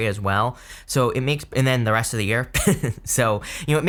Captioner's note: chuckleS